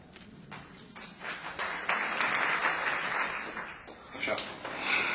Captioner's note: applause